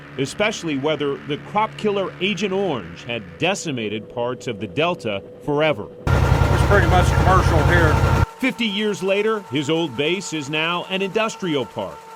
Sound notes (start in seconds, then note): 6.0 boat motor running